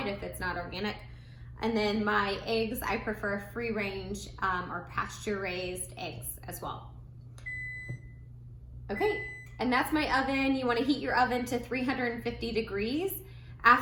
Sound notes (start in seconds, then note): 7.4 oven beeping